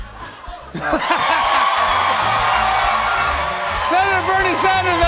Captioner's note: cheers and applause